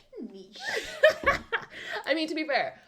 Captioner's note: laughter